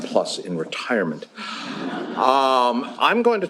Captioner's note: laughter